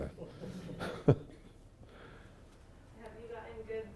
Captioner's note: audience giggles